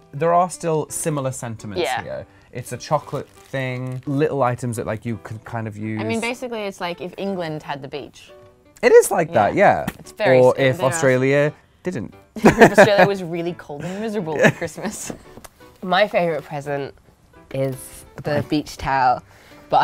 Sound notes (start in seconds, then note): 12.4 laughing